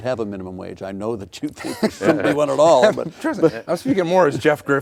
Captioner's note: laughing